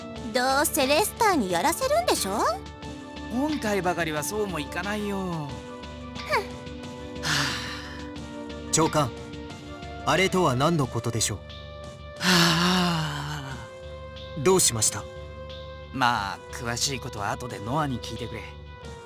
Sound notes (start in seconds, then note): 7.2 sigh; 12.2 overly dramatic sigh